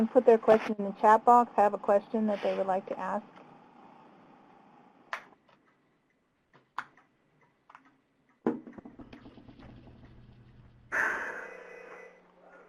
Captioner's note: silence